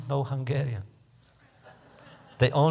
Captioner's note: laughter